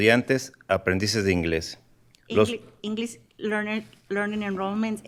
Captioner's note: speaking in spanish